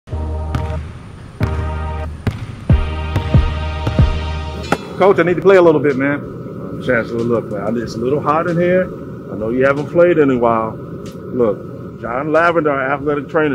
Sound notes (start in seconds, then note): 0.1 upbeat music; 1.4 basketball thudding